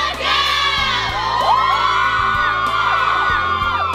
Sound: cheering

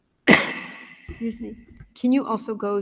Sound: coughs

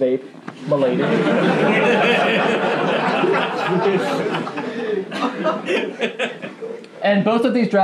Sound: laughing

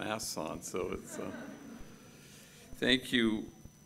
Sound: gathering chuckling

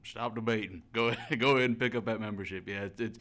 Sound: chuckles

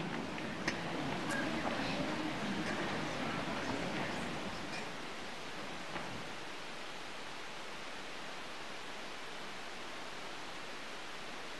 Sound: applause

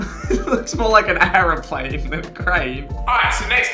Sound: laughs

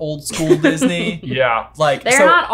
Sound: laughing

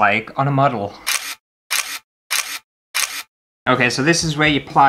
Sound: camera Clicks

